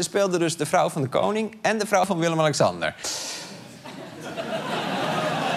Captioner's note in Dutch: gelach